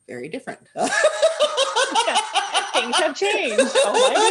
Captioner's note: laughter